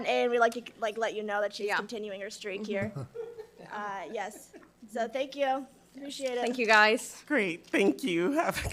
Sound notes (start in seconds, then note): 3.1 audience laughing